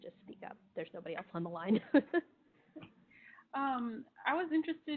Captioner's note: chuckling